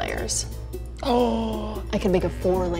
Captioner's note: gasps